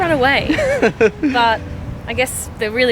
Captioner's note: laughter